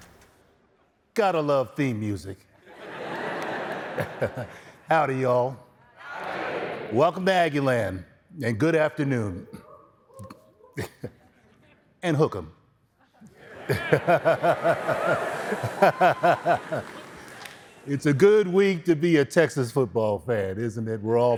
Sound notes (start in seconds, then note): 15.3 laughter